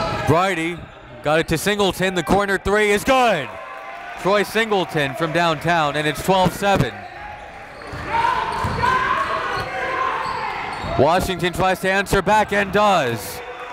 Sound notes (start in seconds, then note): 3.6 applauding